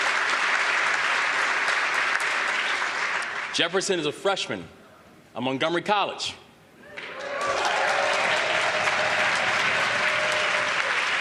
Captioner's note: applause